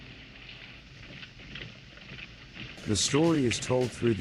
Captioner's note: soldiers marching